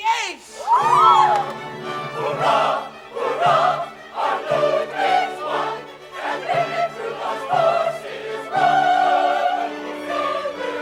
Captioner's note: CHORUS cheers, then sings